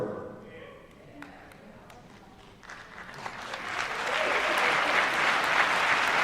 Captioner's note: applause